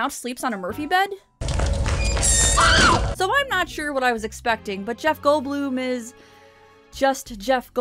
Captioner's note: woman shrieking